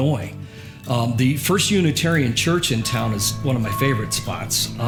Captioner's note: church bell ringing